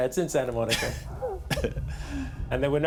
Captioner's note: chuckles